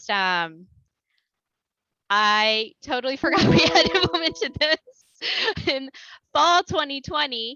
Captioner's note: laughter